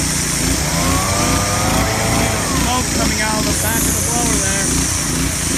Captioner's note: loud engines stop